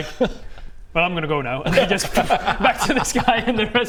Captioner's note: poof!